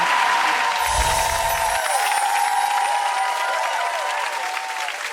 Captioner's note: audience applause